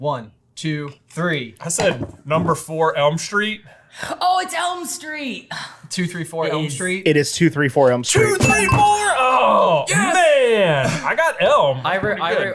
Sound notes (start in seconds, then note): 8.4 bell rings